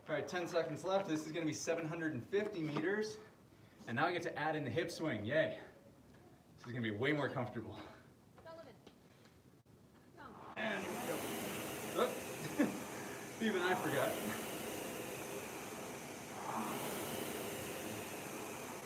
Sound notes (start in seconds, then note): 11.9 laughing